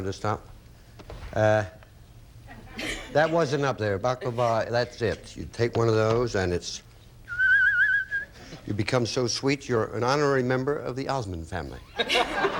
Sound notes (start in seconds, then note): 7.2 whistles